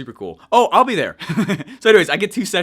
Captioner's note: chuckles